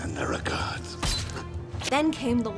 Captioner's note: knife stabs